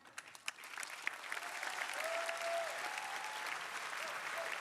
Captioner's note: crowd applauding